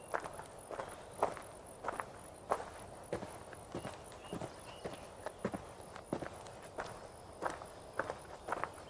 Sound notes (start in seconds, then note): 2.6 footsteps